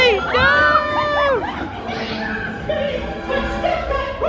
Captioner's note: guest shrieks and laughs